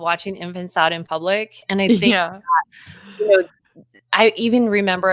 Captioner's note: speaking faintly